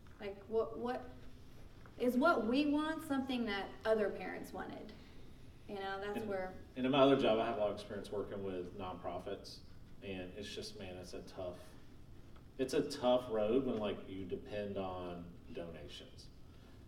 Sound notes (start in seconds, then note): none